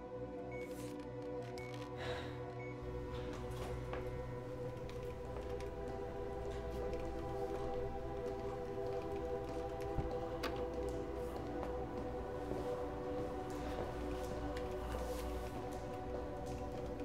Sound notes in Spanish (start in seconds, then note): 1.9 Suspiros